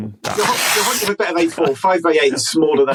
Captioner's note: paper ripping